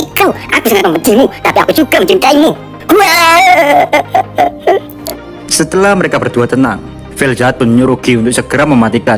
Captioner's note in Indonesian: tangisan velzard